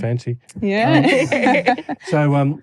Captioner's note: laughter